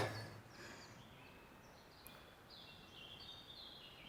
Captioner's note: birds chirping